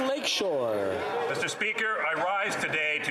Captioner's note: applause